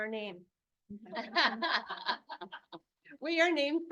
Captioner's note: board members laugh